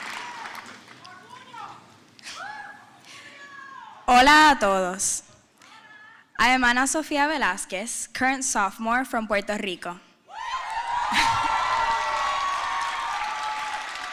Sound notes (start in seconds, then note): 5.3 speaking spanish; 10.6 applause